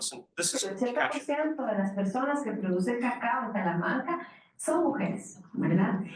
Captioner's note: speaking in foreign language